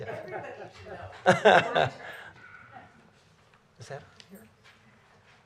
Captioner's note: laughter